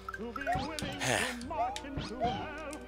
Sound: sigh

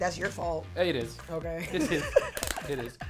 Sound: laughs

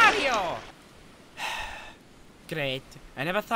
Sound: sighs

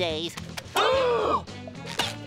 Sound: gasping

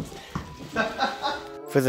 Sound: laughs

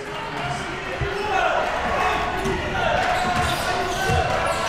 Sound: crowd cheering

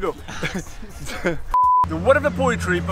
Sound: chuckles

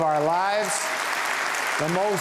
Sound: audience applauding

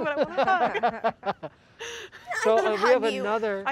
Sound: laughter

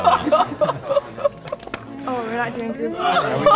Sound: laughing joyfully

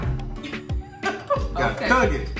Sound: laughing

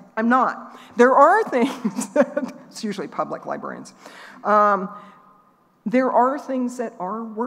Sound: laughing

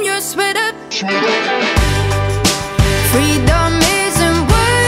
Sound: distorted Voice

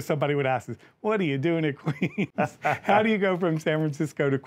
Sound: laughs

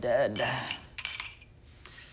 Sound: glasses clinking

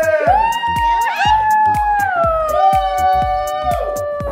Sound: cheering

